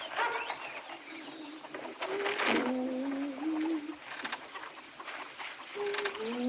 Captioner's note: Granny Humming